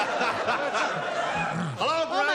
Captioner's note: laughter